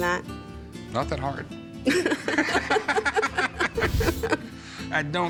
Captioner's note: all laughing